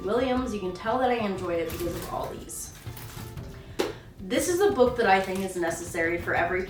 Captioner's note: ruffles sticky flags